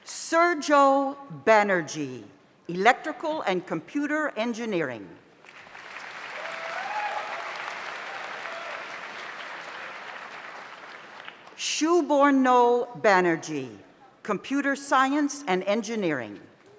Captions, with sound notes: Sirjo Benergy, Electrical and Computer Engineering. (audience applauds) (audience cheers) Shuborno Benergy, Computer Science and Engineering.